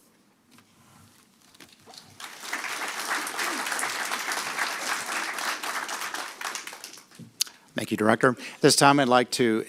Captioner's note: applause